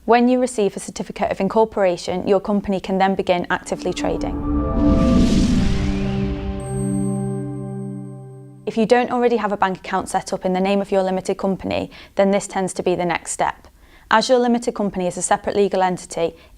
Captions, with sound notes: When you receive a certificate of incorporation, your company can then begin actively trading. (melodic sting) (bell dinging) If you don't already have a bank account setup in the name of your limited company, then this tends to be the next step. As your limited company is a separate legal entity,